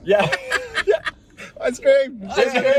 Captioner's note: group laughs